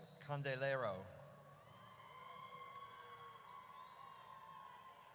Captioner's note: audience cheers